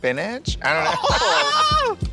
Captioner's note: exclamations